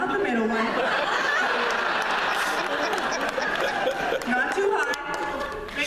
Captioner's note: laughter